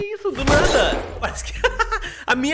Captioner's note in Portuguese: risos